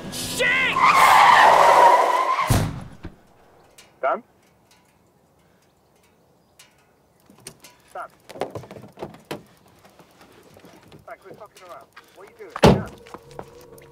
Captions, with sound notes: SHIT! (Car tyres screeching) (Thud) (Male voice on phone) Dan? (Male voice on phone) Dan? (Male voice on phone) Mate, quit fucking around. What are you doing? (Car door slams)